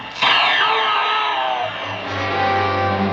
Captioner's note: Jim grita; música dramática